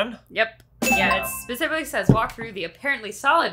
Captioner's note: bell dings